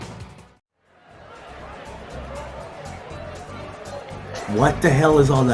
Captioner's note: crowd murmuring